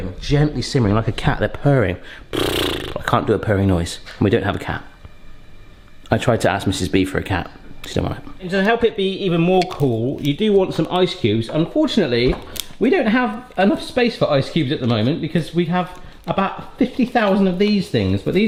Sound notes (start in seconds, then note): 2.2 blows